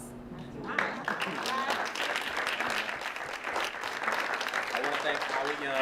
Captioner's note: applause